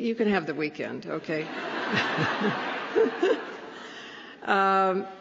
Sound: laughter

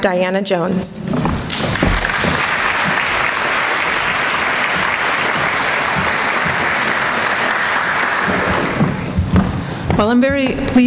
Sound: applause

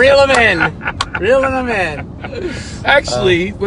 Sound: laughs

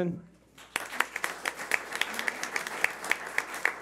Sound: clapping

